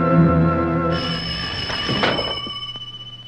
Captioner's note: phone Rings